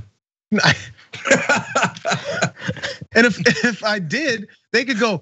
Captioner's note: laugh